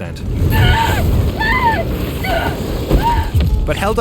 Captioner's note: character screaming